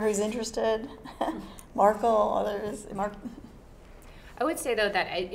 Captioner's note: laugh